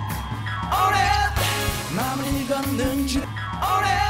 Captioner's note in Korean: 깜짝!